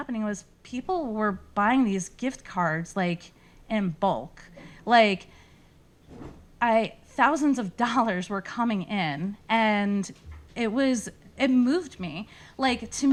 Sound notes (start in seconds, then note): none